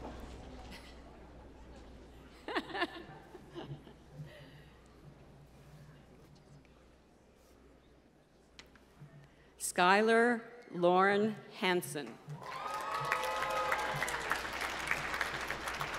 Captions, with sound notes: Skylar Lauren Hanson. (applause)